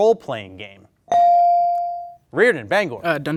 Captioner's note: bell dings